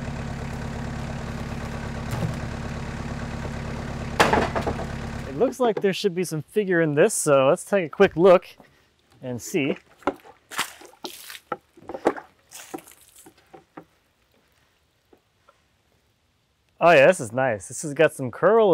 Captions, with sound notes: (wood clatters) It looks like there should be some figure in this. So let's take a quick look and see. (water splashes) Oh yeah, this is nice.